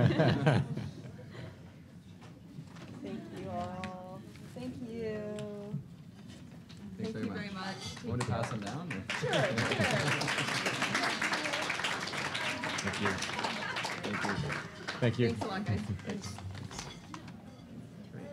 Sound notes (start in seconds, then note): 0.0 laughter; 8.0 applause